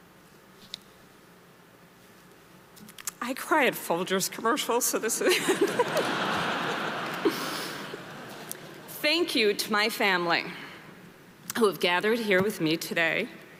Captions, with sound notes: I cry at Folgers commercial, so this... (audience laughing) Thank you to my family who have gathered here with me today,